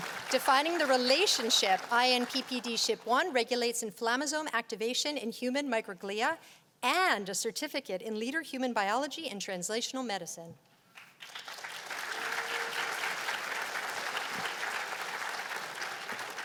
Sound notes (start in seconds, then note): 10.9 applause